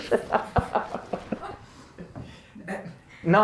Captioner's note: laugh